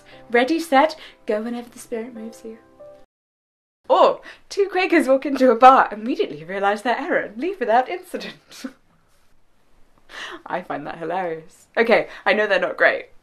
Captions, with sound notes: Ready? Set! Go- whenever the Spirit moves you... Or Two Quakers walk into a bar, immediately realize their error, and leave without incident. [laugh] I find that hilarious. I know they are not great.